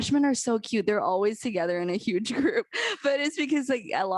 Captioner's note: laughter